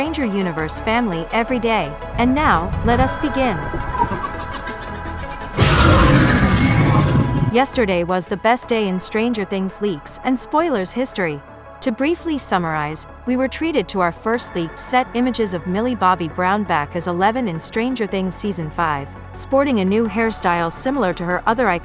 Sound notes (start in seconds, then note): 3.5 demogorgon screams